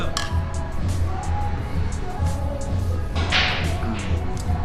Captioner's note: glasses clinking